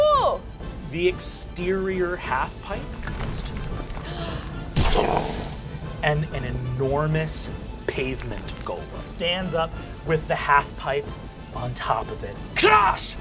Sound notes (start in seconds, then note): 3.8 gasps; 4.2 mimics booming